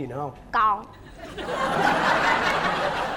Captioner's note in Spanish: risa